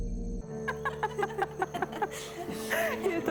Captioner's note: laughter